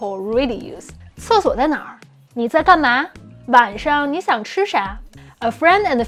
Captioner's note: speaking in Mandarin